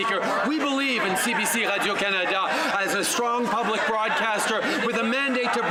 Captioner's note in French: voix de l'interprète